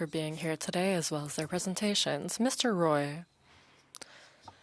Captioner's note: speaking French